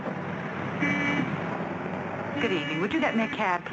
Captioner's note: horns honking